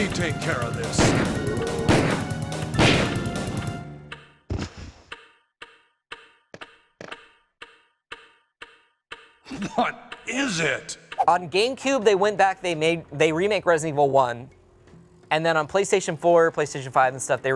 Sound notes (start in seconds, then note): 1.0 gunshots bang; 1.2 intense music; 4.6 clock ticks